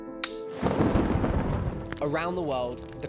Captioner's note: thunder booming